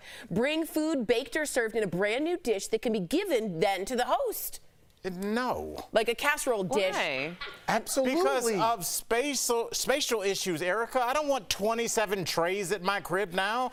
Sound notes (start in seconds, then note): 3.9 laughter